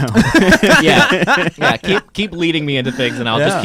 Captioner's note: laughing